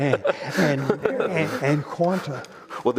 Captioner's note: all laugh